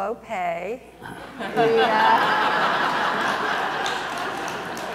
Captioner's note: audience laughs